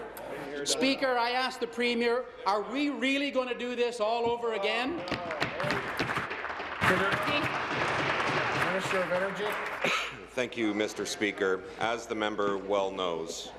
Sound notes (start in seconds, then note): 7.6 applause